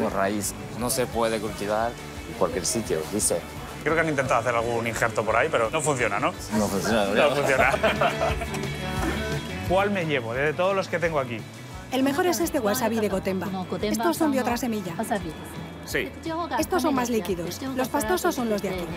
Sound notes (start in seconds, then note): 7.0 laughing